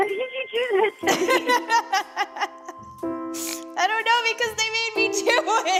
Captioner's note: laughs